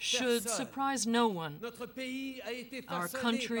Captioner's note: speaking French